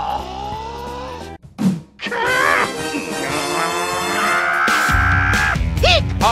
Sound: the fork screams

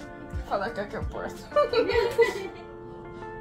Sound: laughs

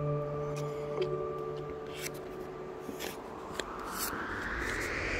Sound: opening paper envelope

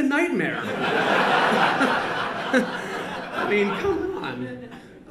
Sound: laughter

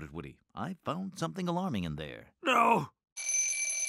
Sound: alarm clock ringing

